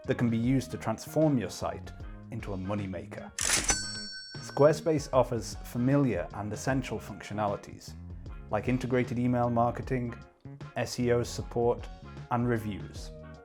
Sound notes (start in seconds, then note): 3.4 cash register rings